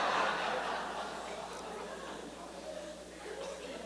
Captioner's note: laughter